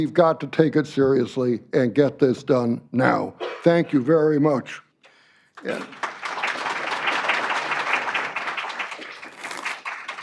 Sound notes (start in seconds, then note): 5.5 applause